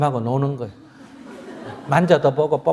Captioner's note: audience Laughter